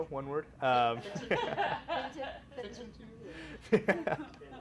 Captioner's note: laughing